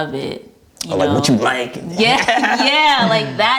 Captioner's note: laughs